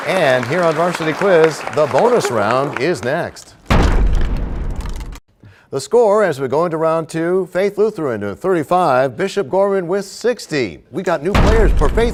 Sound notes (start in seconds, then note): 0.0 applause; 3.7 crashing sound